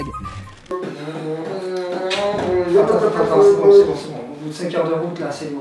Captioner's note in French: human beatbox